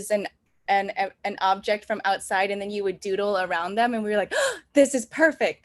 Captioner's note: gasp